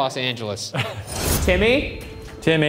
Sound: laughs

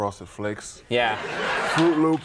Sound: audience laughing

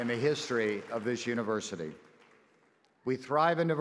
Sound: c h e e r s & applause

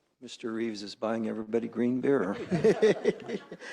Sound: laughter

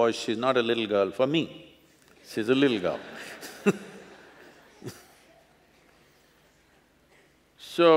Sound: laughter

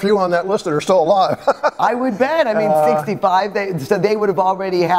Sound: laughs

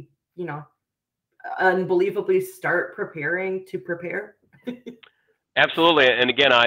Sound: chuckles

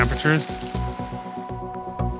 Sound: machine beeps

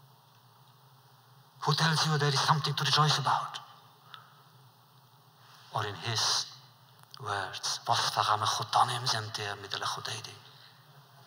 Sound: Yiddish

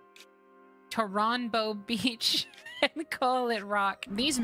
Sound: laughter

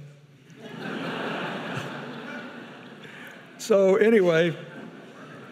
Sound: audience laughing; chuckles

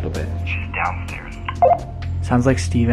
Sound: beep

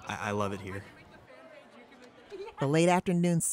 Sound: students chattering

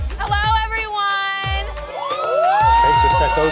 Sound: cheers

